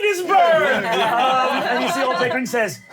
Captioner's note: laughter